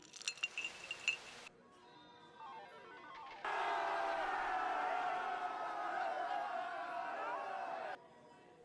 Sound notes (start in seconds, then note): 0.0 ice clatters; 3.4 faint ringing and crowd cheering briefly